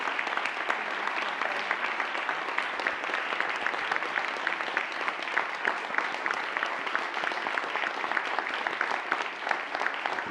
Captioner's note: applause